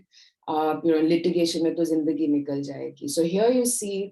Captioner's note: speaks in Hindi